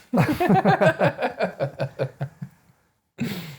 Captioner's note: laughing